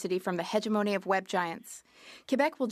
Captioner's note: speaking French